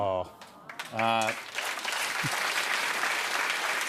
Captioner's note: applause